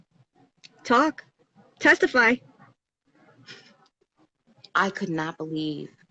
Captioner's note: giggles